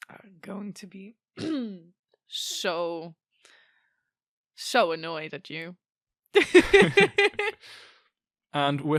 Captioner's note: clears throat; both laugh